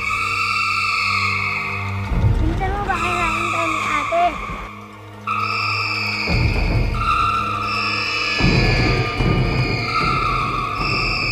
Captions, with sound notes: Hurry up. My sister might be looking for us. [shrieks] [shrieking in distance]